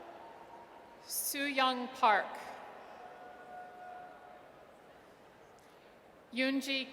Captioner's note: audience cheers; audience cheers